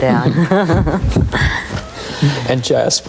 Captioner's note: laughing